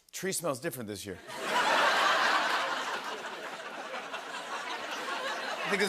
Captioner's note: laughter